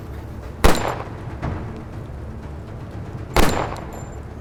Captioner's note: gun firing